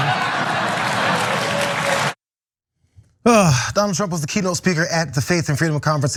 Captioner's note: laugh